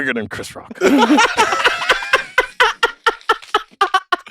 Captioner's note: group laughs